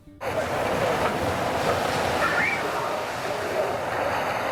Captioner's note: water sloshing